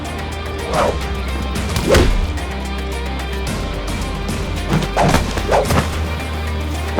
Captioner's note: blows thudding; air whooshing